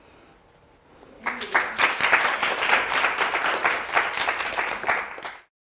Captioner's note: applause